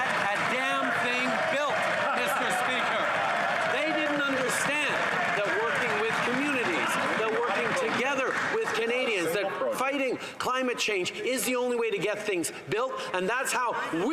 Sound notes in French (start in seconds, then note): 6.3 voix de l'interprète